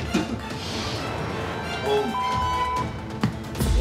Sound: beep

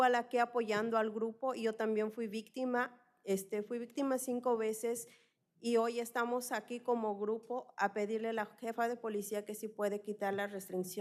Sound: speaking spanish

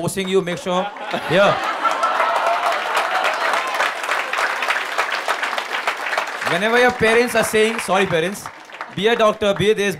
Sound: laughter/Applause

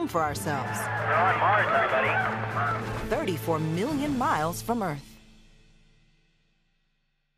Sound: cheers

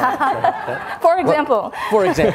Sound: all laughs

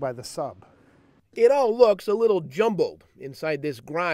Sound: voiceover

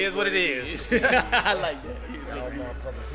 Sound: laughing

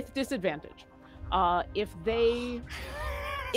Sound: laughs

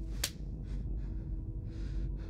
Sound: slap

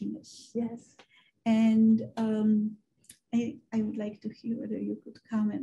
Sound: woman's Voice

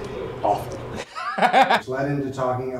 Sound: both laughing

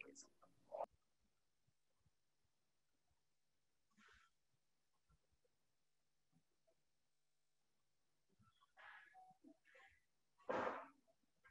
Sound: silence

